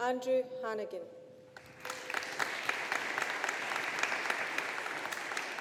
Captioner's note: audience applauding